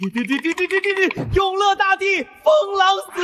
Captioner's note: drip drip drip drip drip